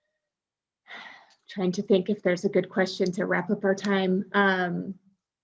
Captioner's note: sighs